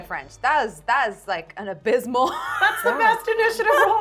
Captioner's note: laughing